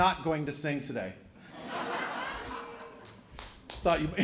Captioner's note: laughter